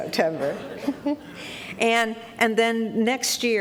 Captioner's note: laughter